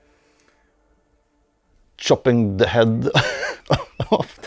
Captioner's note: laughter